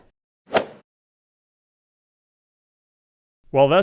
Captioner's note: golf swing sound effect